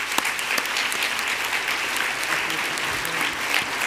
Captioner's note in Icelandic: fagnaðarlæti